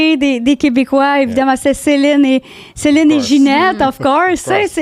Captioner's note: in french